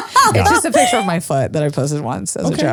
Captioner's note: laughs